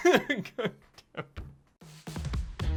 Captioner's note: laughs